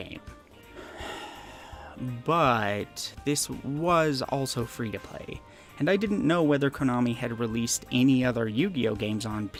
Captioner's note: sigh